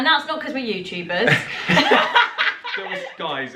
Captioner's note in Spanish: laughing